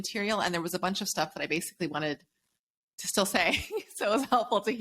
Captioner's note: giggles